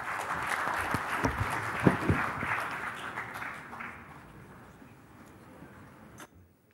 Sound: applause

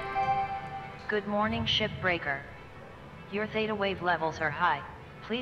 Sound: Hab Voice

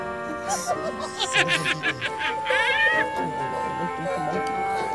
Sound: cackling

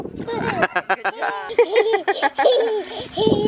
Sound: laughing

